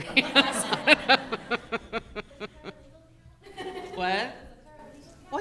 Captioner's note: audience laughing